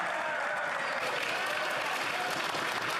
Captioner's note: yelling